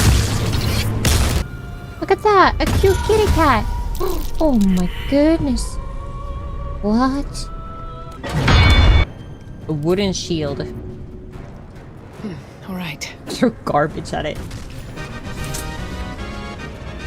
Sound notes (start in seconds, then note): 8.2 boom; 15.0 victory fanfare